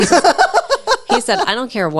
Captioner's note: laughs